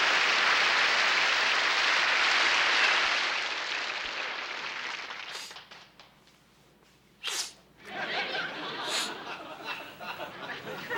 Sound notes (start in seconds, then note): 7.2 sniffling; 7.8 laughter